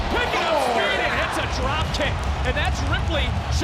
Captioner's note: crowd cheering